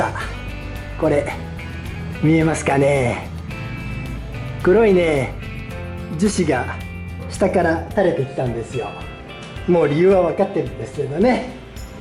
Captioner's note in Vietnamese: cười